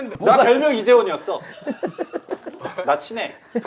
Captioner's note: laughing